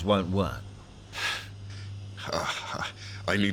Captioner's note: sigh